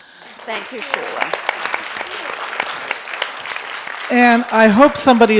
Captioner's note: applause